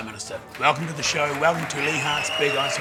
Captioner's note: audience applauding